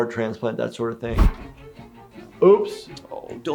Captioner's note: video whooshes